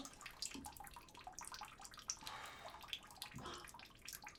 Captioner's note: water dripping